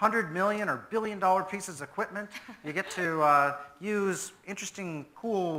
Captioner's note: presenter laughs